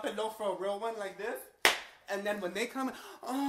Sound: hand slaps

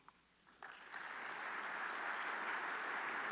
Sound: applause

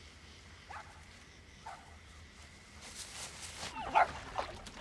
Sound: dog barking

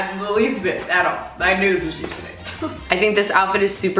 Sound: laughs

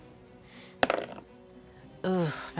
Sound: dice clatter

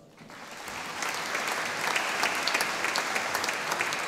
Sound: audience applauding

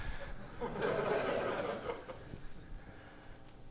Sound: laughter

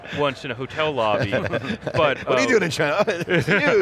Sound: laughing

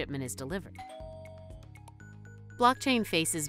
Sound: doorbell rings

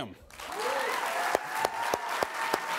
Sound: audience cheering

